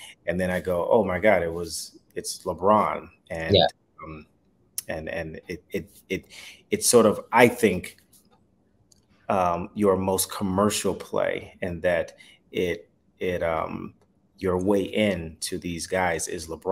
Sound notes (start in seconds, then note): none